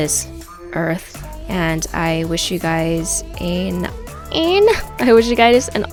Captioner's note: aaaahhnn